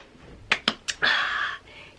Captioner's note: claps hands